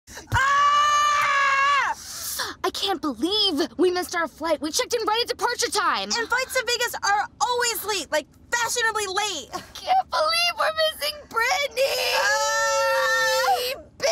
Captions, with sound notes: [yelling] >> I can't believe we missed our flight! We checked in right at departure time! >> And flights to Vegas are always late, like, fashionably late! >> I can't believe we're missing Britney, bitch! [crying]